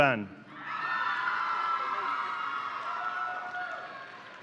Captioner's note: audience cheering